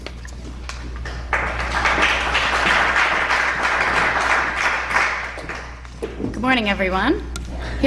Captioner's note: applause